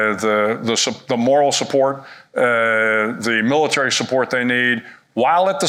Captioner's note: none